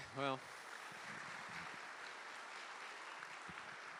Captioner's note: applause